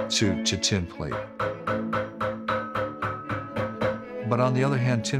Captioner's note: hammering